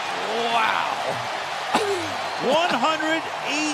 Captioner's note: cheering